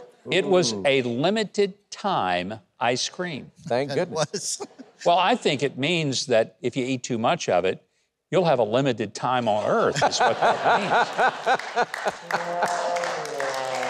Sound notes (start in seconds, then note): 3.9 laughs; 9.9 co-host laughs